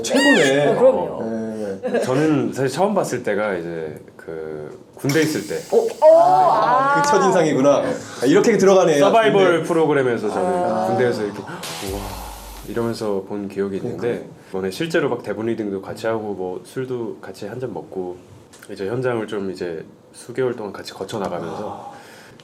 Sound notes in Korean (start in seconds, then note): 8.2 감탄